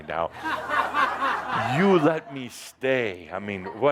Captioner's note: laughter